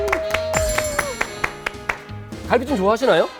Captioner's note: everyone scream